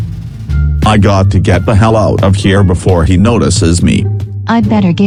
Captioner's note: footsteps